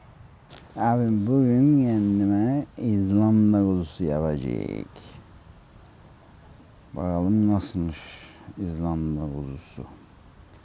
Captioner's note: cypriot Accent